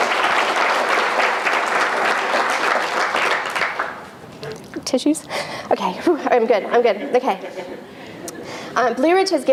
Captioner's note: applause